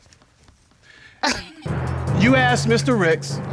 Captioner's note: chuckles